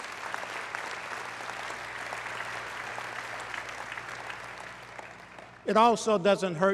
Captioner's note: applause